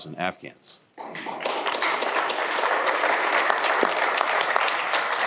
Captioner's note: applause